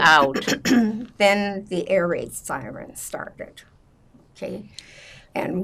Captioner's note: clears throat